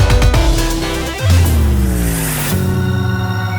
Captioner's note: low frequency buzzing; choir singing